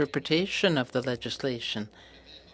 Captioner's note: speaking French